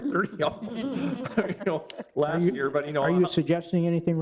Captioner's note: all chuckling